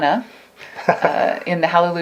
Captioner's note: laughs